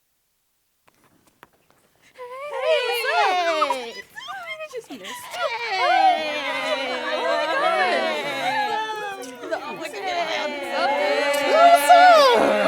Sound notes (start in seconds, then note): 0.2 shuffling steps; 6.1 simultaneous chatter and laughter